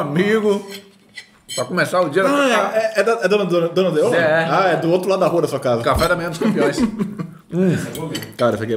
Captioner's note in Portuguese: risos